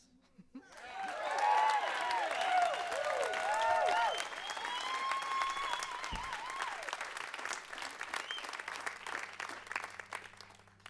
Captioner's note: crowd applause